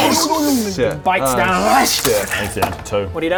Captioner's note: hrrsch